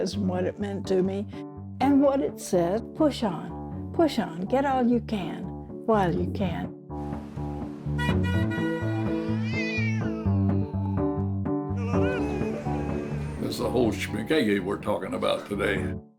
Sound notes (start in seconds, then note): 8.3 car horns; 8.6 cat meows